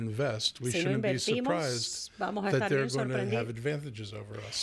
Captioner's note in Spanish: Hablando ingl\s